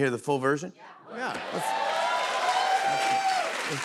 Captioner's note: cheers and applause